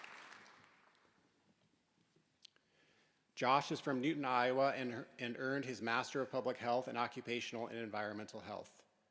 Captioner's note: applause